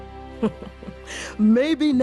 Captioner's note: laughs